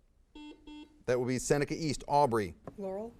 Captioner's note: buzzer beeps